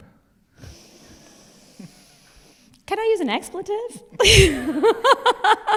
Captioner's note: laughs